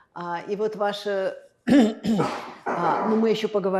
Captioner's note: clears throat